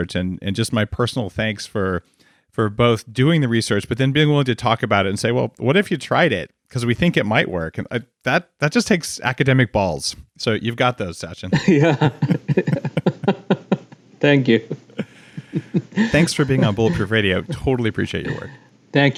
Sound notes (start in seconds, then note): 11.4 both laugh